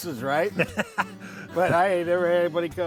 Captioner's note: laughs